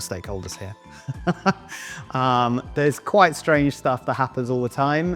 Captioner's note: laughs